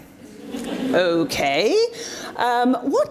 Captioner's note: audience responds